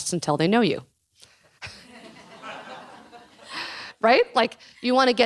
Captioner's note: laughing